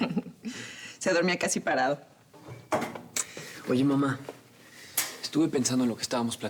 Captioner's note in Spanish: risas